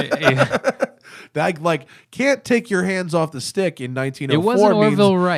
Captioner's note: laughter